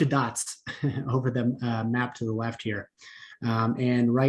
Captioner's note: laughter